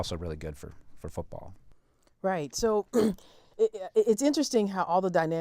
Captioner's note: cough